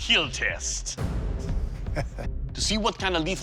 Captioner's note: laughs